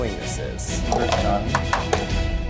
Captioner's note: game clinking